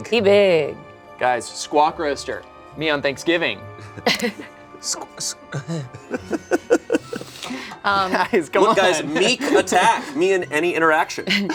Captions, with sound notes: - He big. - Guys, Squawkroaster, me on Thanksgiving. (group giggling) - Look guys, Meek Attack. - Come on. - Me and any interaction.